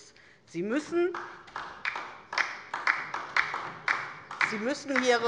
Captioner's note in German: Beifall DIE LINKE